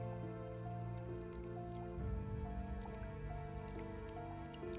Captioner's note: blood drips